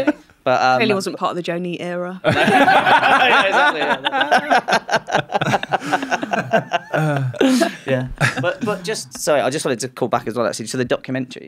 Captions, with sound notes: Clearly wasn't part of the Joe Neate era. *hue hue hue hue hue hue hue* Yeah, but just, sorry, I just wanted to call back as well actually. So the documentary.